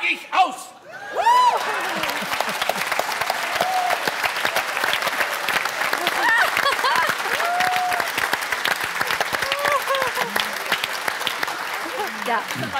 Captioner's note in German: Applaus